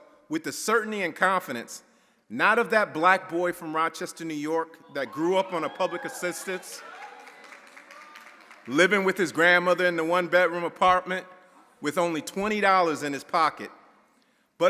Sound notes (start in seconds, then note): 5.0 audience cheering; 7.5 audience applauding